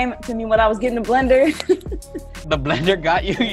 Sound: laughs

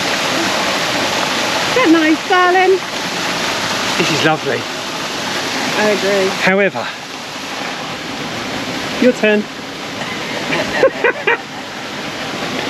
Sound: laughter

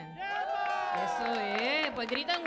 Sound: audience cheers; woman speaking in Spanish

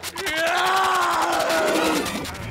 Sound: screaming

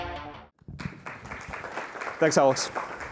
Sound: applause

